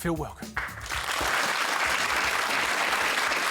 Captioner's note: applause